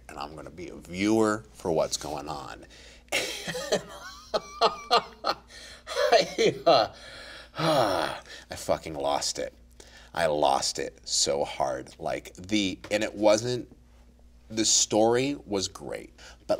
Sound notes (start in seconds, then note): 3.4 laughs; 6.8 sighs